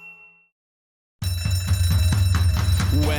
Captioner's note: fire Alarm Blares